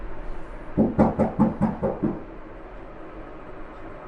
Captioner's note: knocking